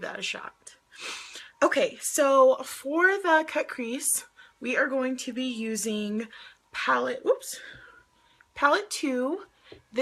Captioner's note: sniffs